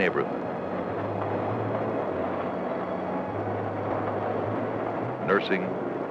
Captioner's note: train rumbling over tracks